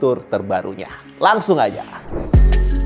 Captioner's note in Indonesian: suara transisi; upbeat music